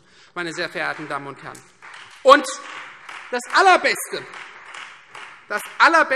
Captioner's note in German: Beifall Freie Demokraten